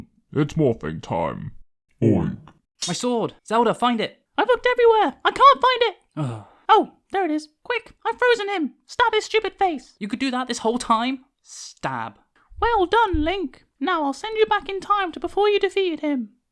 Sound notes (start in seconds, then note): 6.1 sighs